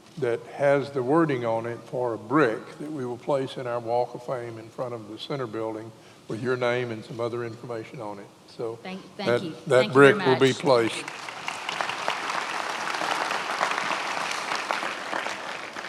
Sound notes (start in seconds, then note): 12.0 many applauding